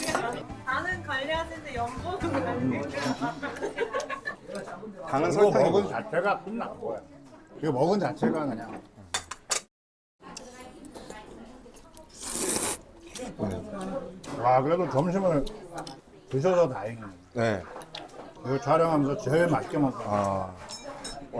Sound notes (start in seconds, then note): 10.1 slurping kimchi juice-flavored seolleongtang